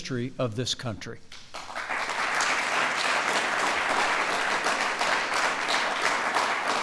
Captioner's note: applause